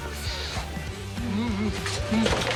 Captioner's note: moaning